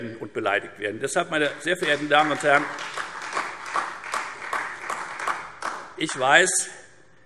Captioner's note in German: Beifall Freie Demokraten und vereinzelt AfD